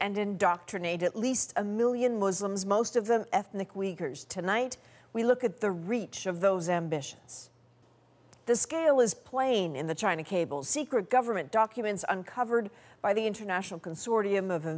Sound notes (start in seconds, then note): none